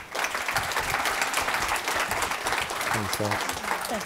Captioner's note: applause